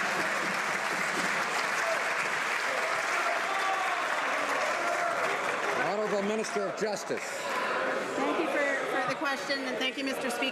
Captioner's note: some Applause